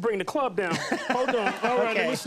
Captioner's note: laughing